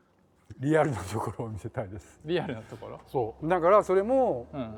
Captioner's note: laugh